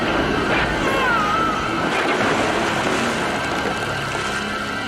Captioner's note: Geoff yelping